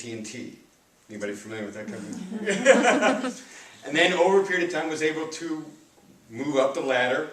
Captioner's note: hahaha!